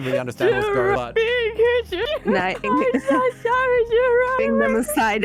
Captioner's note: Sad-Drunk Kitsune noises